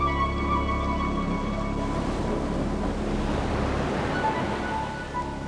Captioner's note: ocean waves crashing